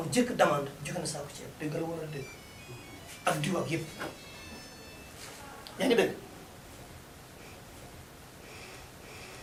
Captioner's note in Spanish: suena teléfono móvil